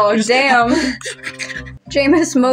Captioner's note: feral Noises